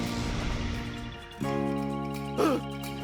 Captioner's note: screaming